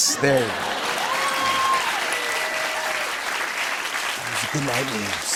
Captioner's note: cheers and applause